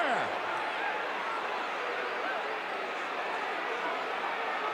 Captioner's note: audience cheering